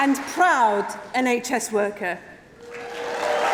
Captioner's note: applause